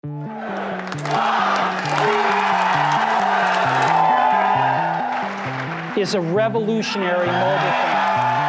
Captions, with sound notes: (crowd cheering) - It's a revolutionary mobile phone.